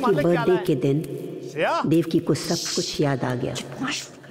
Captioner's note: Sushing